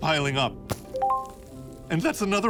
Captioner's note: notification ding